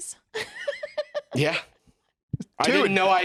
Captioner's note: laughs